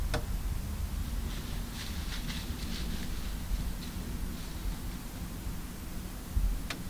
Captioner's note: rustle, rustle…